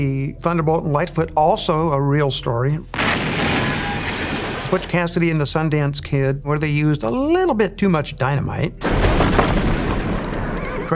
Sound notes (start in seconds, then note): 2.9 gun firing; 8.8 explosion booming